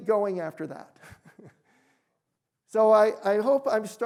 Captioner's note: chuckles